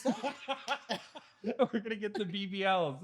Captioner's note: laughing